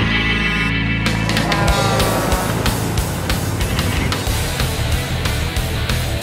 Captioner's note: honking